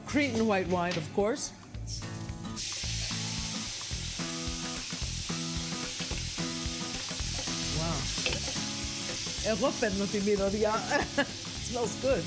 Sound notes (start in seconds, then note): 1.8 sizzles; 8.9 speaking greek